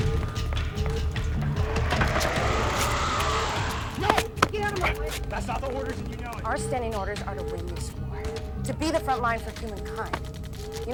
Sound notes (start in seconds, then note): 1.4 vampire roars